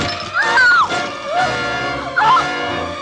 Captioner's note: screams